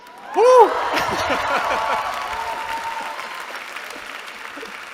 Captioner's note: laughter, cheering